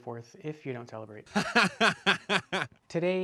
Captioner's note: man fake laughing